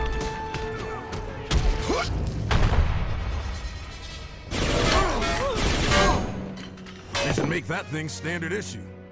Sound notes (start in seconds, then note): 1.8 wincing